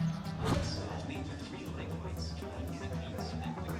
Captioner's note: chatter